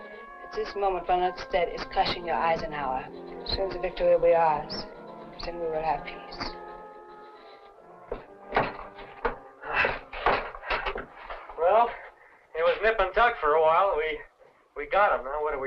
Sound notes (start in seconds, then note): 8.1 clattering